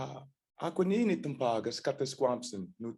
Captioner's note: non-english speech